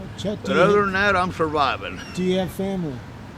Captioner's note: chuckles